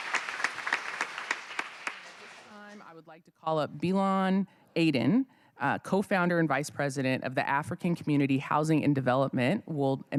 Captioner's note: cheers and applause